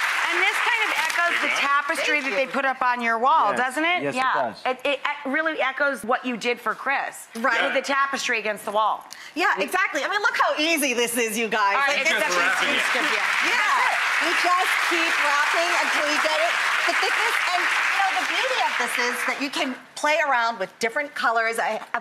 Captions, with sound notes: And this kind of echoes the tapestry that they put up on your wall. Doesn't it? Yes, it does. Yeah, it really echoes what you did for Chris with the tapestry against the wall. Yeah, exactly, I mean look how easy this is, you guys. It's just wrapping it. (audience applauding) You just keep wrapping until you get the thickness. You know the beauty of this is that you can play around with different colors.